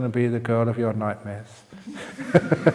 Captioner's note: laughs